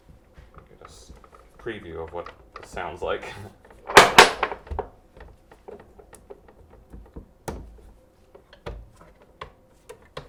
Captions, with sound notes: We'll get a preview of what it sounds like. (chuckles)